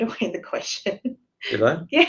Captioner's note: laughs